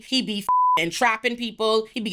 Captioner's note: beep